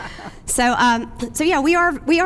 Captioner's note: laughs